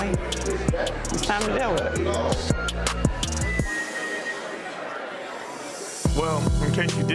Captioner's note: crowd murmuring